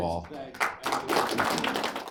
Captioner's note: applause